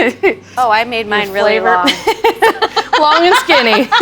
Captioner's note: laughs